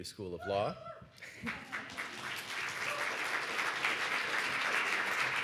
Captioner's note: audience cheers and applauds